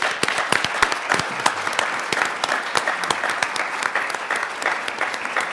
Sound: everyone applauds

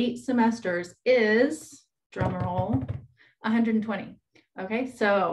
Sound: bangs on table

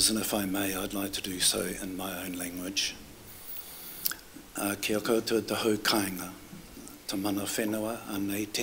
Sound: foreign words

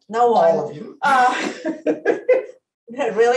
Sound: laughs

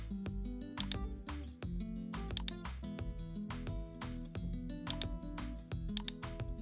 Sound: mouse clicking

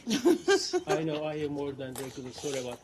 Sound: laughter

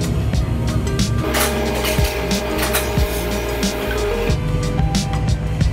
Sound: machine clicking

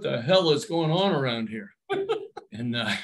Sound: laughs

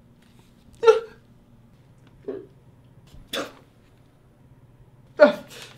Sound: cries

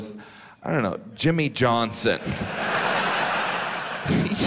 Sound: audience laughs

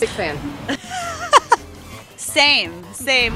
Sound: laughs

